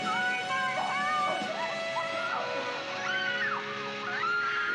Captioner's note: screaming